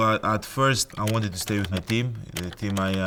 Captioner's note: keyboard clicking